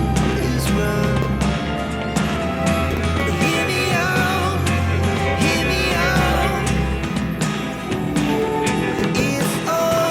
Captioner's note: fireworks and Reaction haha